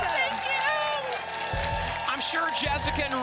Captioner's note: applause